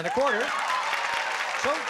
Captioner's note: applause